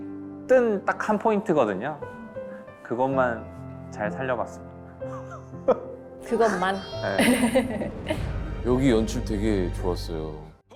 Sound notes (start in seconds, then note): 5.0 chuckle